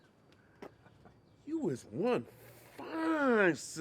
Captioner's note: men laughing